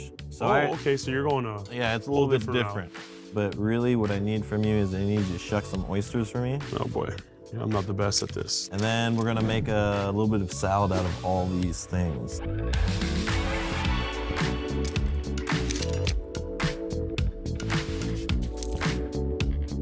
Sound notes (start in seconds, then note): 8.7 shell clacks; 12.6 lively upbeat music; 15.4 shell clacks; 15.5 oyster splits; 16.3 lively upbeat music